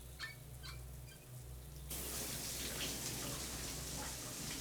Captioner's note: shower spraying